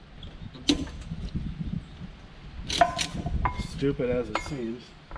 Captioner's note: strap clanging